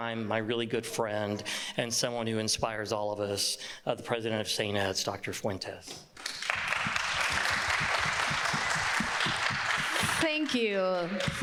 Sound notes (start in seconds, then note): 6.1 people clapping